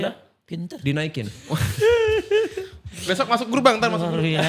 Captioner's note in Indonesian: tertawa